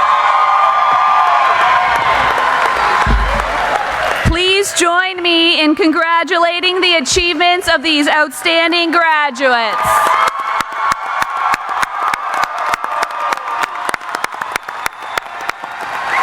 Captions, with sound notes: (cheering) Please join me in congratulating the achievements of these outstanding graduates. (applauding)